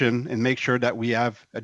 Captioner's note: speaking French